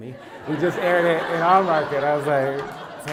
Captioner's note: laugh